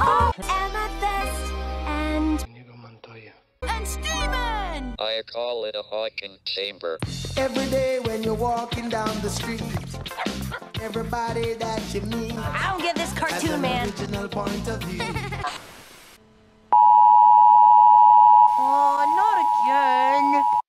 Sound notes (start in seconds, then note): 15.4 static; 16.8 beeping noise